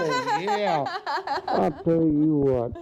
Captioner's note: laughing